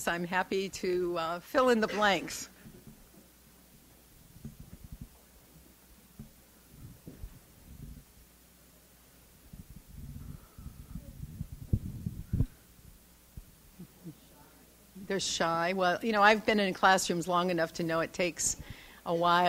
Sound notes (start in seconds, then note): 4.3 silence